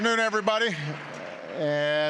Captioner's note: applause